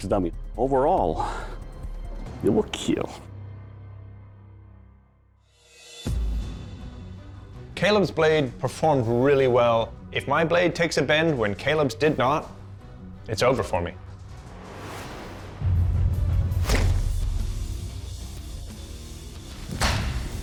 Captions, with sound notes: Overall, it will kill. Caleb's blade played performed really well. If my blade takes a bend when Caleb's did not, it's over for me. [chopping sound]